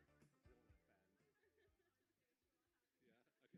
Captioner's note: participant laughing